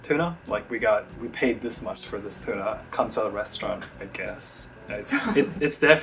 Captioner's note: laughs